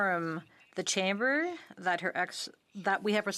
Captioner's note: speaking in French